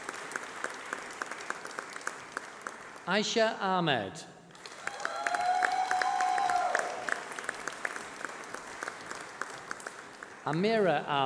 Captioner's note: applause